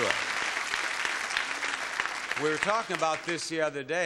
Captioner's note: audience applauding